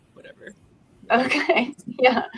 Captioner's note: laughs